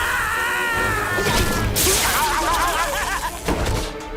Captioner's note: screams